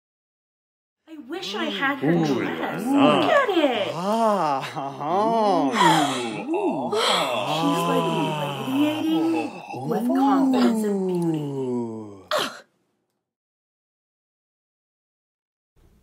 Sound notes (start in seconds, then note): 2.0 exclamations of surprise, admiration, shock, jealousy, love